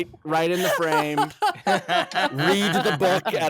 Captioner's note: laughing